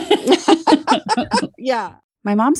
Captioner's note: laughter